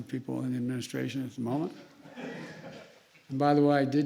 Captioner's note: laughter